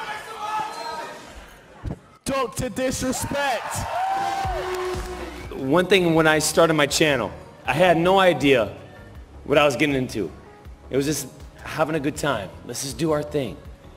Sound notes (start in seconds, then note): 4.2 applause